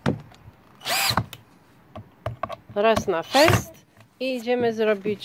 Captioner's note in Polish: Odgłos wkrętarki